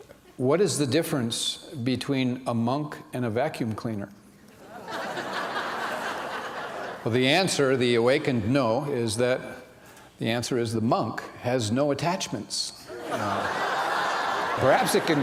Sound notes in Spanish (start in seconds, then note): 4.6 risas; 12.9 risas